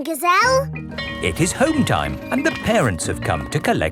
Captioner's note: bell tolling